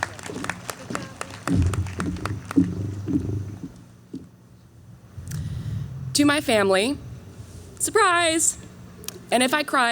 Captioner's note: clapping